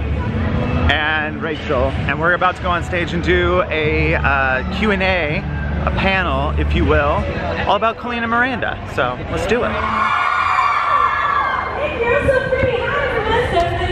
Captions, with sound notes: And Rachel. And were about to go on stage and do a Q and A, a panel, if you will, all about Colleen and Miranda so, let's do it. (screaming) - Thank you, so pretty, hi everyone!